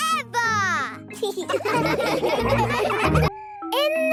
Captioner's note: laughing